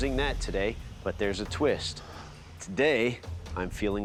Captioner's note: exhales